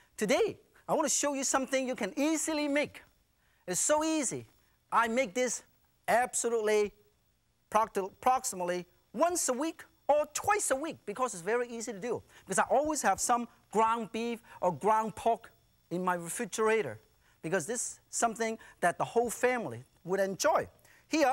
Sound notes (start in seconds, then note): none